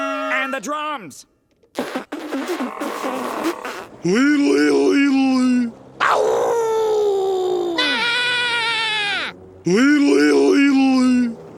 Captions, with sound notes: And the drums. [blowing] Liddle, liddle, liddle, lee. [howling] [screaming] Liddle, liddle, liddle, lee.